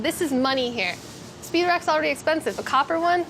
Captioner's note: none